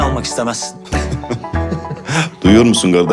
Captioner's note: laughter